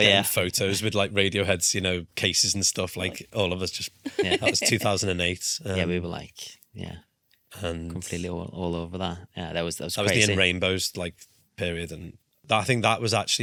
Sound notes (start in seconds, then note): 0.0 laughs; 4.0 laughs